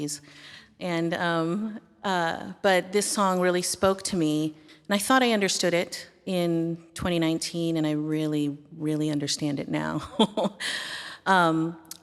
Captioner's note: laughter